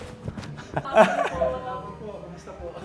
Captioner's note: chuckles